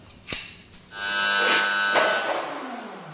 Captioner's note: loud whirring